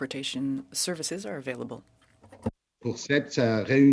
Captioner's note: speaking French